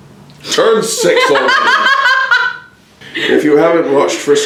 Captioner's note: laughs